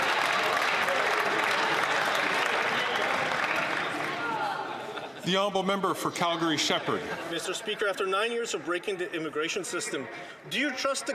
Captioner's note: some Applause